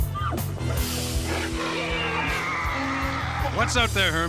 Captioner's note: roaring